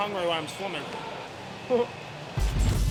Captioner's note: chuckles